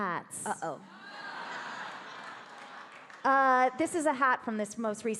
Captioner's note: audience laughing